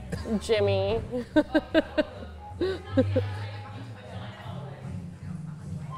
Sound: laughs

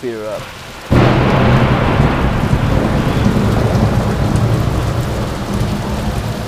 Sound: loud thunder

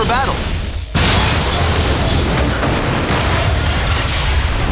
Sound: explosion

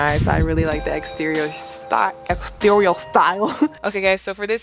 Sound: laughs

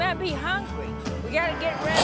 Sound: snap & growl

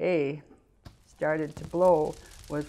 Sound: explosions and fire crackling

